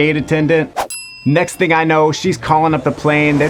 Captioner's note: bell pings